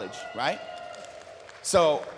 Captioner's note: applause